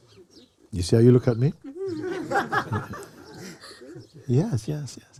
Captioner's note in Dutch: gelach